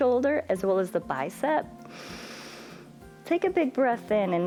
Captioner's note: inhales